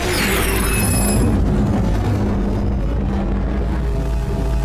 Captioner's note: sound effects